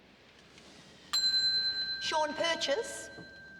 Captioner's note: bell rings